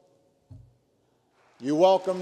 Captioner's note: applause